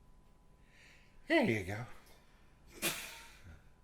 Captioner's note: laughing off screen